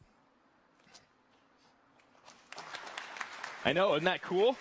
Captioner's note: audience applause